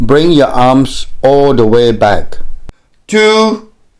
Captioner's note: voiceover